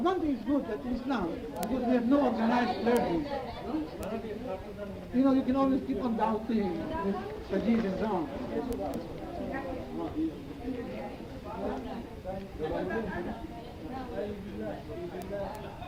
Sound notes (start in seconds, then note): 12.2 crowd murmuring